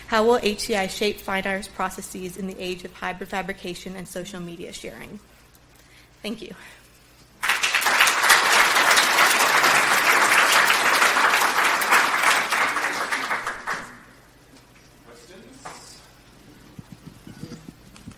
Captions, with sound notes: how will HCI shape fine arts processes in the age of hybrid fabrication and social media sharing? Thank you. (applauding loudly) - Questions?